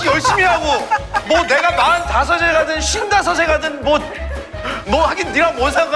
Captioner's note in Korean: 깔깔탁